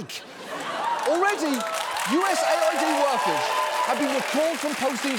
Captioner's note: audience laughing; cheering, applauding